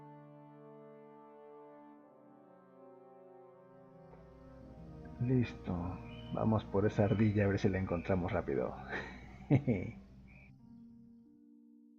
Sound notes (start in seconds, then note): 8.8 laughs